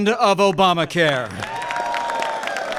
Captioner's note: applause